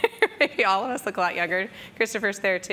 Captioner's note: laughs